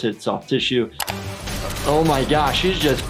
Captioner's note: gun firing